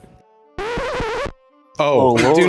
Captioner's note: audio warbling; group chattering